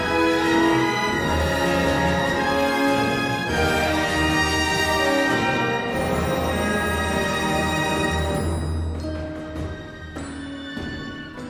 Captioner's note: door opens